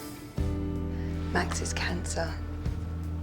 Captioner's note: voiceover